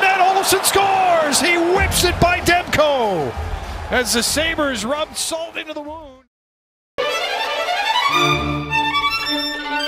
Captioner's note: app lause